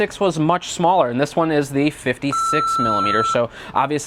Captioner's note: beeping